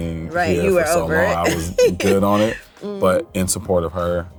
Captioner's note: laughs